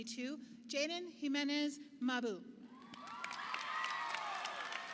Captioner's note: audience applauding